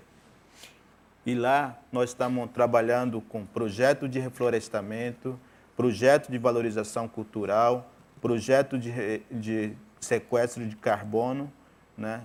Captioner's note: speaking in portuguese